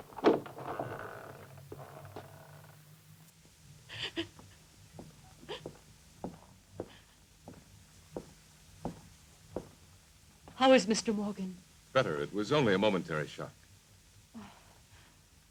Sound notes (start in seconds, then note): 0.0 door opens; 3.9 Corinne sobbing